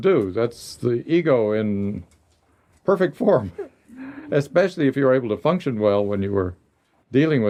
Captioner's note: laughter